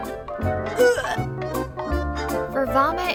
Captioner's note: vomit sounds